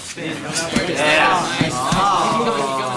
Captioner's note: men encouraging fighters